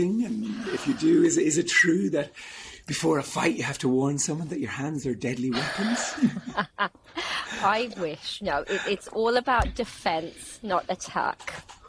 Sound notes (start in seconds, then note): 5.5 laughing